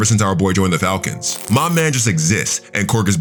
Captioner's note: TV static running